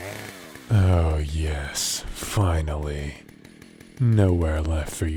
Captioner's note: chainsaw noises in background